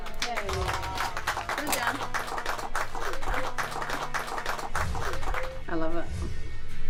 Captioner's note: applause